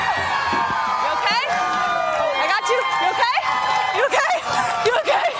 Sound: cheers and applause

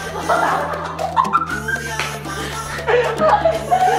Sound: laughing

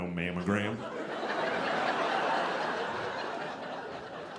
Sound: audience laughing

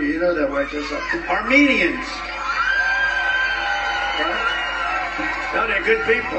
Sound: crowd cheering

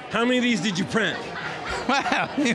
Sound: laughing

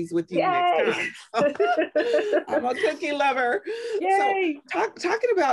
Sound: laughter

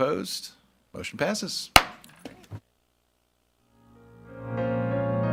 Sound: gavel thudding; gentle music

